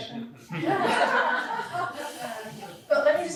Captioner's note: laughter